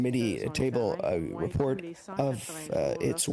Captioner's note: speaking French